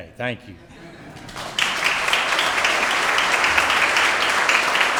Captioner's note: audience applauds